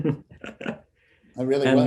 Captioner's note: laughter